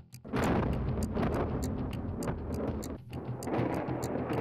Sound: bombs blaring

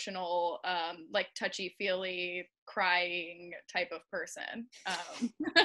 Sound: laughing

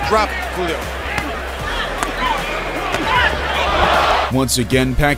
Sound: crowd noise

